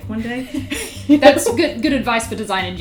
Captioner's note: laughing